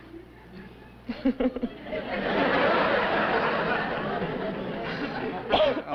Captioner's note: laughs